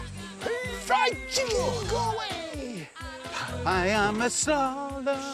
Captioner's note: both groaning